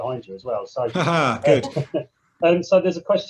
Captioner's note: laughing